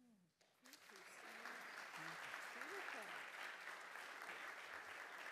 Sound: audience applauding

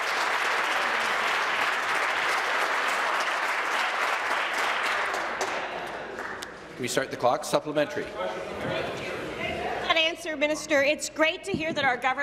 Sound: applause

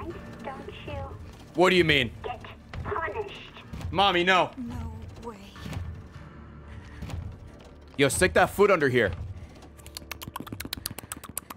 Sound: tongue noises

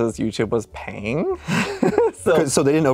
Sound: laughs

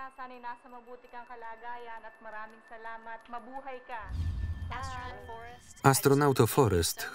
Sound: speaking tagalog

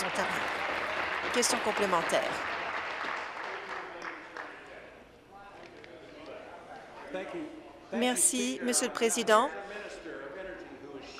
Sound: applause

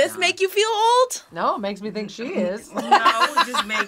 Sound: laughs

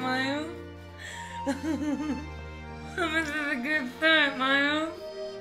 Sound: laughing

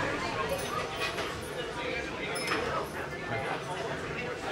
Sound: indistinct conversation

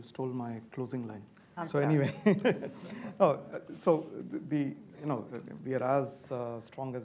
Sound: laughs

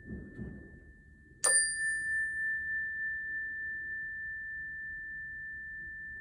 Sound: calming chime sound

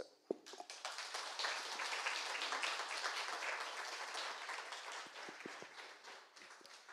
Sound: applause

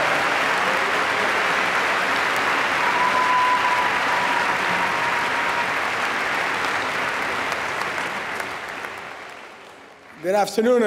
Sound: applause

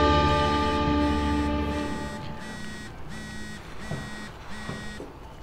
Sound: cell phone vibrating

